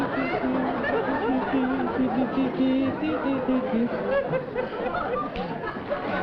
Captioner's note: laughter; continues humming